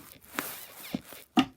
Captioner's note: bed squeaks